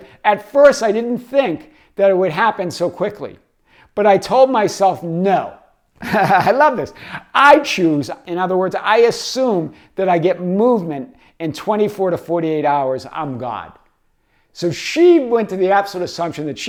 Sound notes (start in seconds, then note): 6.0 laughs